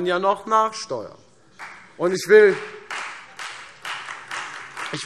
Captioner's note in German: Beifall Freie Demokraten